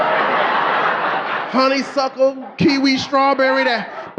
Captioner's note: audience laughing